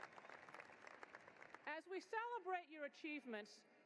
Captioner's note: cheering and applause